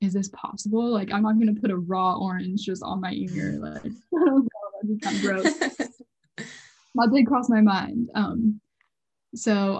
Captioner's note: laughs